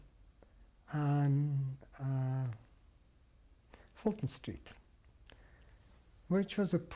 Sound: pauses for 3 seconds

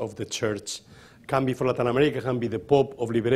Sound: speaking rapidly

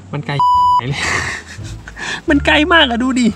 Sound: laugh

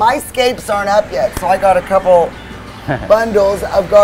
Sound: giggles

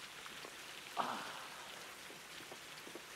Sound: groaning

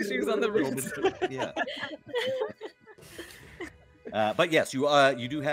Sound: all laughing

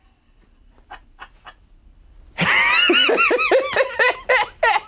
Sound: both laughing

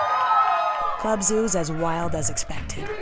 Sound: cheers

